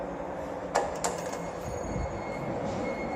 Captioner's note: chime